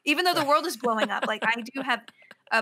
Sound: laughs

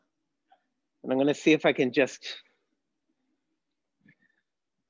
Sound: long pause

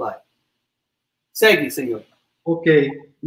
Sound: speaks portuguese

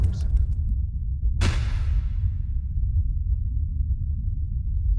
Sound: satellite whooshes; satellite clanks

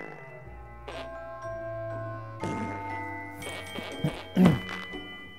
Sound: fart noises

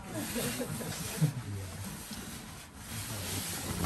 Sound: laughter

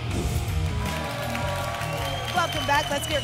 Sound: whoosh; applause and cheering

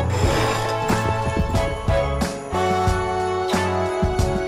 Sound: plates sliding

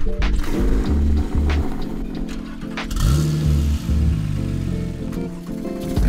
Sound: car engine roaring; upbeat music

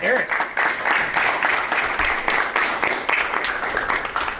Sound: attendees applaud

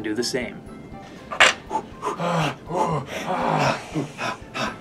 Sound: dramatic breathing

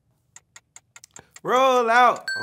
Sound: timer ticking

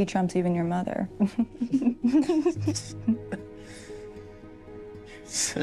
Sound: laughter

